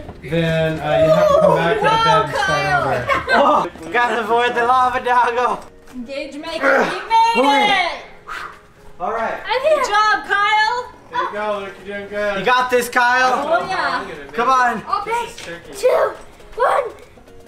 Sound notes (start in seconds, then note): 8.8 relieved breathing